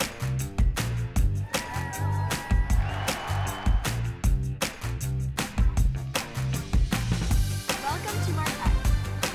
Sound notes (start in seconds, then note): 1.4 girls cheering; 1.4 crowd cheering